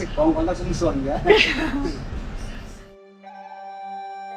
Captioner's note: Cantonese; laugh